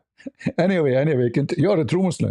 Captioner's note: ketawa